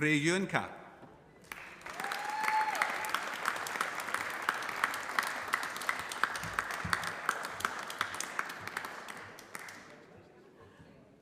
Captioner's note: applause